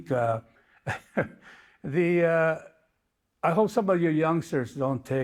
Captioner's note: chuckles